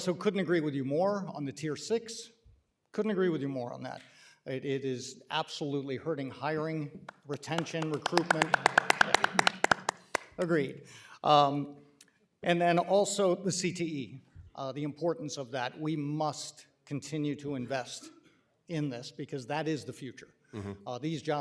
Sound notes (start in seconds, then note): 8.5 applause